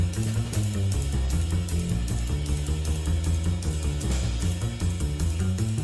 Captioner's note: none